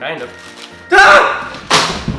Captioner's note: screams